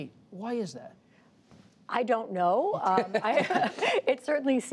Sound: laughter

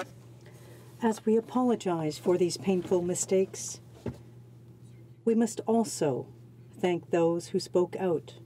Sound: speaking French

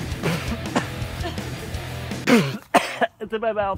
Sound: coughing

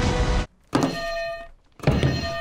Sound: hitting bell in slow-mo; hitting bell

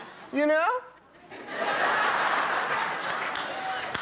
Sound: audience laughing

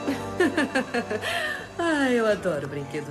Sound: giggles

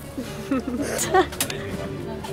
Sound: click

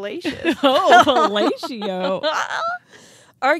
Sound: chuckling

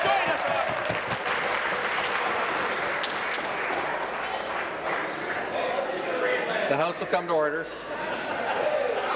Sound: applause; applause and cheering

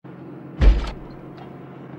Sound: crash

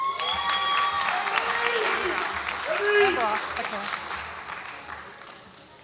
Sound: audience applauds and cheers

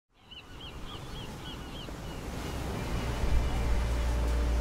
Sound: bird calls

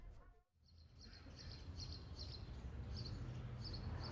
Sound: birds chirping

